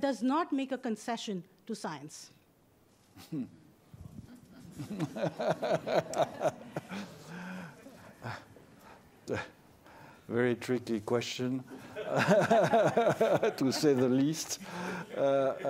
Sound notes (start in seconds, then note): 2.3 laughter